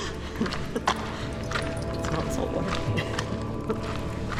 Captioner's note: laughs